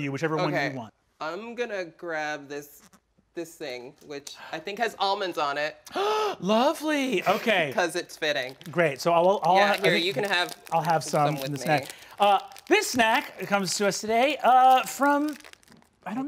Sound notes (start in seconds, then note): 5.9 gasping